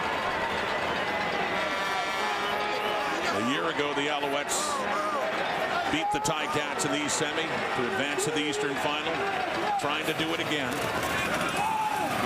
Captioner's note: crowd Noise